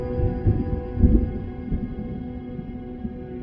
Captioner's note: thunder rumbling